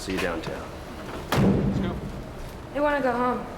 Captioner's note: van door closing